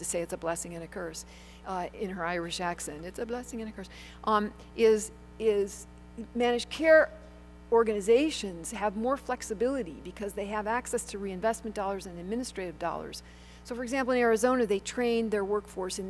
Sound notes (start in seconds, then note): 3.0 Irish accent